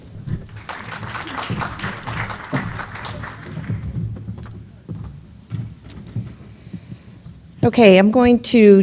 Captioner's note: applause